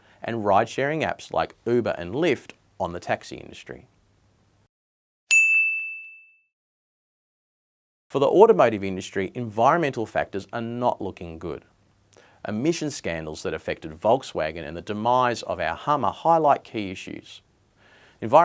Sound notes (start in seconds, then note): 5.3 bell dinging